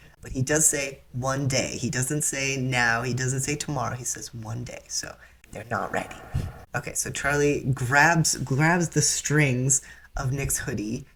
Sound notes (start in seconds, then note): 5.1 echoing